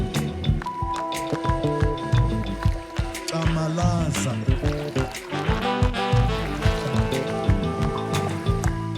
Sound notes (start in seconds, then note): 2.6 speaking in foreign language; 5.9 dramatic music